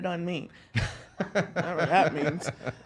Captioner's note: laughs